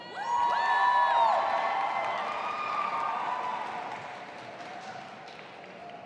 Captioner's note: audience applauding and cheering